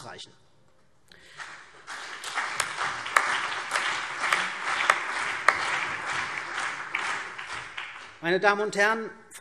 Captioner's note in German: Beifall CDU und BÜNDNIS 90/DIE GRÜNEN